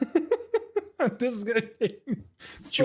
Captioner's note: lots of laughing